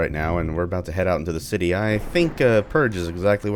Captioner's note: thunder